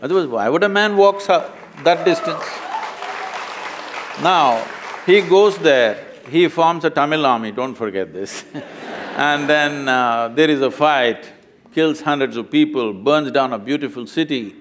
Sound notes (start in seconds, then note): 1.3 applause; 8.3 laughter